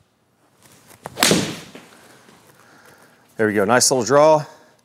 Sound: golf ball smacks; golf club whacks

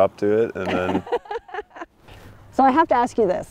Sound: and Producer laughing

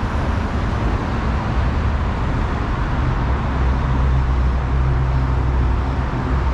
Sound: rear approaching vehicle

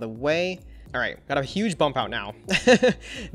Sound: laughs

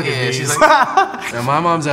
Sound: laughs

